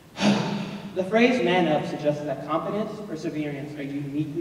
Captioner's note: sighs